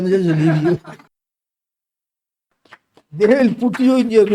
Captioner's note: laughs